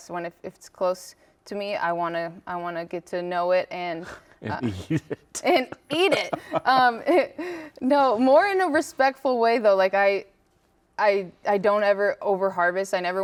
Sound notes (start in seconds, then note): 4.4 laughs